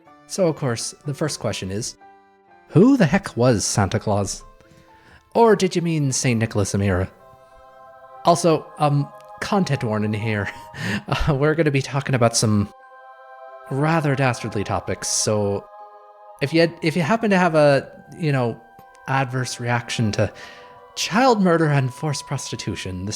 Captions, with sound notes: So, of course, the first question is: Who the heck was Santa Claus? Or, did you mean: Saint Nicholas of Myra? Also, uhm, content warning here: [awkward laughter] We're gonna be talking about some... rather dastardly topics, so... If ye- If you happened to have a, y'know, adverse reaction to... child murder and forced prostitution,